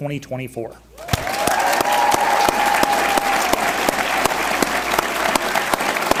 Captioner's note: audience cheers and applauds